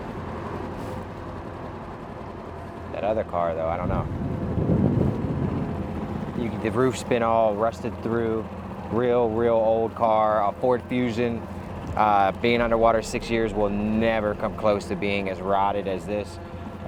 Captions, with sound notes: That other car though, I don't know. (tense music continues) (motor droning) The roof's been all rusted through, real, real old car. Our Ford Fusion being underwater six years will never come close to being as rotted as this.